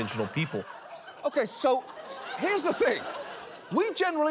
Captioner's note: studio audience laughing